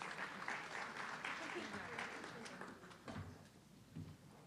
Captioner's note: audience clapping